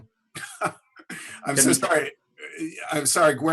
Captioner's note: laughs